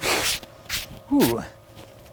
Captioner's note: scrapes